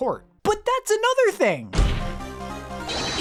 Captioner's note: slams desk